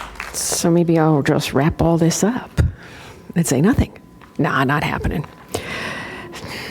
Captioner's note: applause